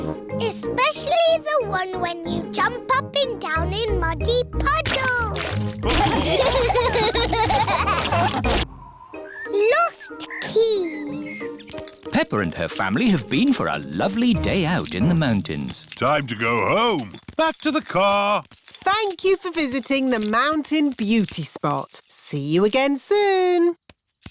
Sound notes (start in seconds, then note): 5.9 laughter